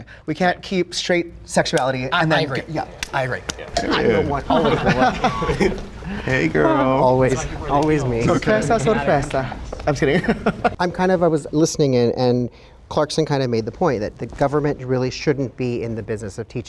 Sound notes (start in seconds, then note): 3.8 all chattering; 10.8 laughs